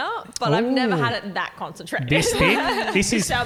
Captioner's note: laughing